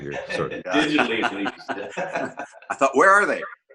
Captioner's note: laughs